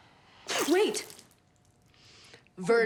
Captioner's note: liquid squirts